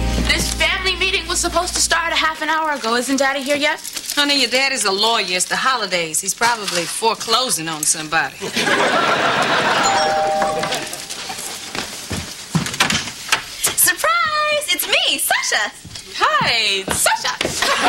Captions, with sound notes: THIS FAMILY MEETING WAS SUPPOSED TO START A HALF HOUR AGO. ISN'T DADDY HERE YET? YOUR DAD IS A LAWYER. IT'S THE HOLIDAYS. HE'S PROBABLY FORECLOSING ON SOMEBODY. [DOORBELL RINGS] SURPRISE! IT'S ME--SASCHA! [IMITATING HER] HI...SASCHA!